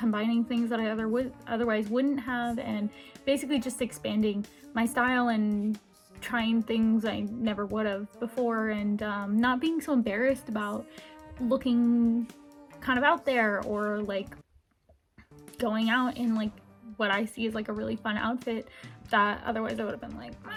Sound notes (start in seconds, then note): 14.5 swallows